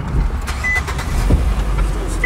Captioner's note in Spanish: revoluciones del motor